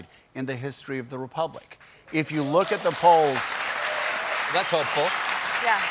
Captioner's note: cheers and applause